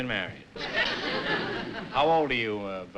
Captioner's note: laughter